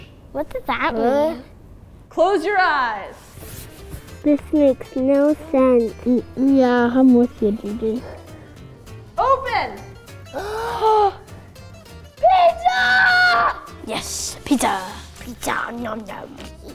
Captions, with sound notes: - What does that mean? - What? - This makes no sense - Yeah how much would you do? (gasping) - Pizza! - Yes, pizza! - Pizza, num num.